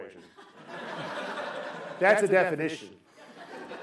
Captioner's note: laughter